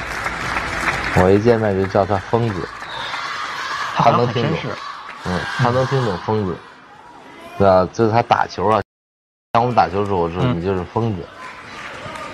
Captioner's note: madman in Chinese